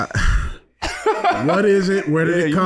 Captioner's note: laughing